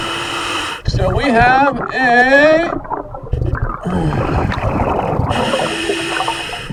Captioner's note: water burbling